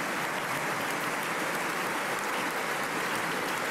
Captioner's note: applause